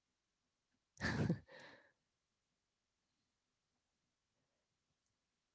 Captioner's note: chuckling